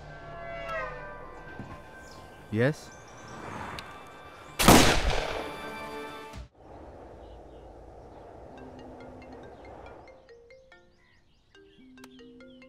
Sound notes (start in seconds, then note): 0.0 Horns honking; 4.6 Gunshot; 8.6 Phone ringing